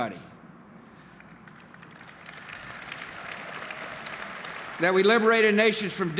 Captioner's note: applause and cheers